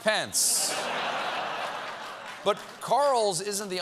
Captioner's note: laughter